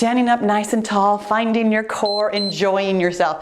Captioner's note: timer beeps